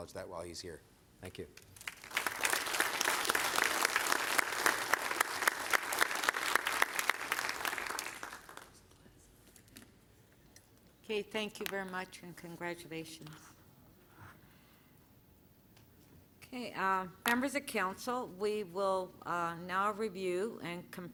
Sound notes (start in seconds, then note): 6.4 applause